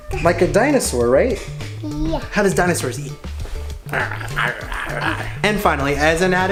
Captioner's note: makes gnashing sound like dinosaur